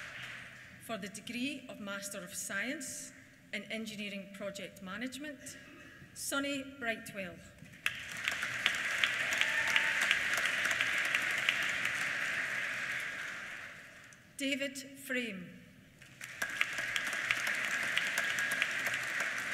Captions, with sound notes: For the Degree of Master of Science in Engineering Project Management, Sonny Brightwell. (CHEERS) (APPLAUSE) David Frame. (APPLAUSE)